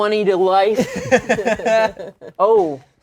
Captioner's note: laughs